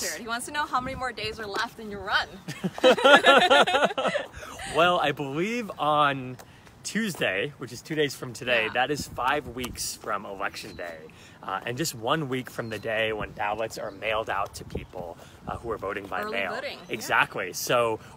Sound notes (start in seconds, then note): 2.5 joyous laughter